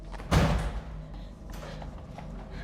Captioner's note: door closes